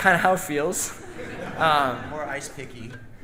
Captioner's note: audience laughing